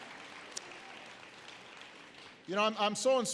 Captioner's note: applause